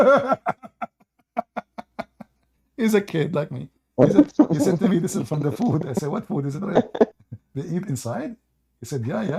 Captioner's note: Ketawa